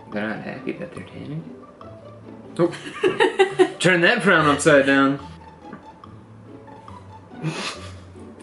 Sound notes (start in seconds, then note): 2.9 laughs